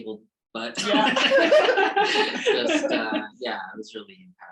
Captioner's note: laughs